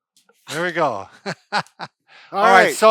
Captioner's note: laughing